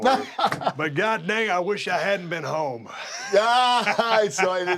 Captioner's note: laugh; laugh